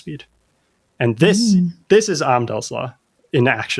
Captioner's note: uh